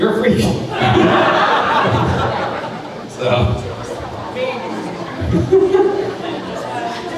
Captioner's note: crowd chattering; crowd laughing